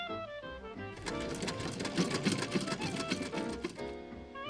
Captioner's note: sewing machine fades out